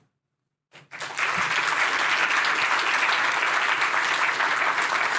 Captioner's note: applause